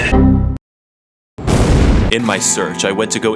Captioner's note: explosion